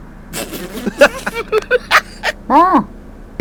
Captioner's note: laughes